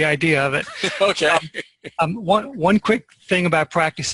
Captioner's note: laughs